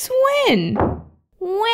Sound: slam!

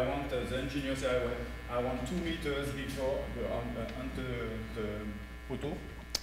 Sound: speaking french

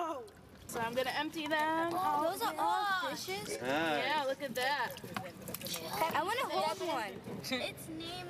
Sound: kids & adults' voices

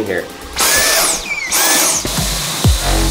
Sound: vacuum suctioning; intense music

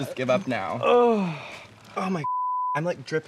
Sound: groans

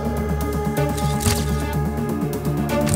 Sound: shutter sound

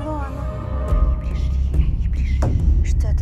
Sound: sinister whisper

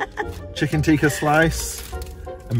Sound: laughing

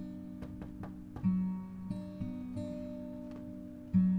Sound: faint knocking

